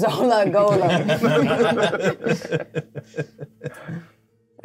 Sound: co-hosts laughing

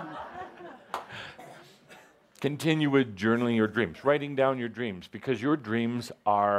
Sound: laughter

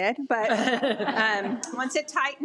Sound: audience laughing

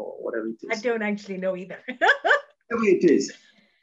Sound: laughs

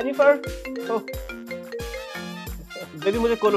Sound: phone ringing

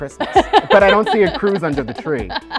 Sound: laughter

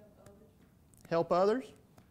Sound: voiceover

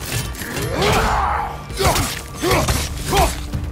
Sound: grunts

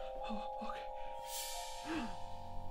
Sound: panting; gasps

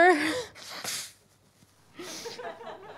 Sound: blows nose; scattered audience laughter

